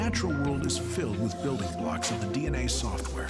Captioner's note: metal creaking